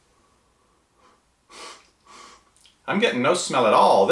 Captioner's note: sniffing